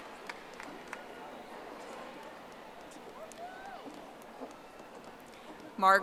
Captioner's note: audience applauding